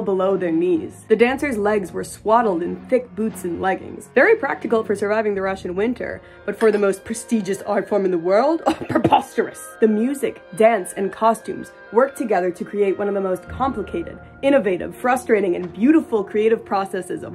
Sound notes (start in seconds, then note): 8.4 offended scoff